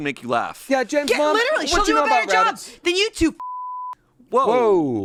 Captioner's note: beep